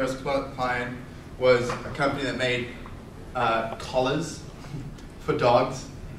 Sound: laughs

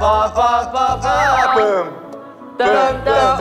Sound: hesitant

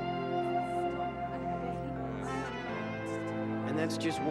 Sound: crowd murmuring

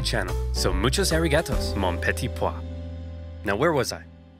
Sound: speaking in foreign language

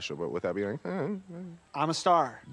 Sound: mimics whining

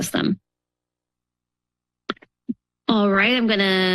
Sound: pause

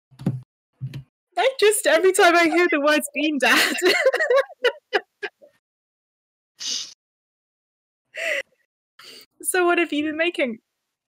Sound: laughs

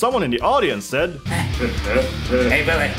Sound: Beavis and Butthead laugh

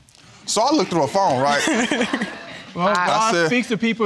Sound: all laughing

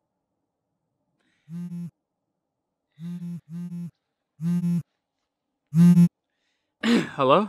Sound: phone vibrating

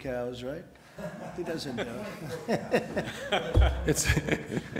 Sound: laughter

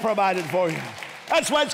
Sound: applause

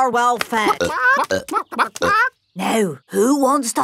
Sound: clucking

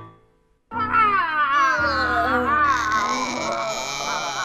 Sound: screeching

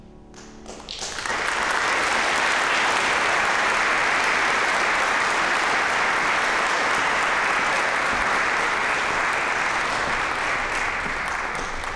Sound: light, airy piano music; applause

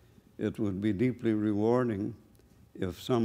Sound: none

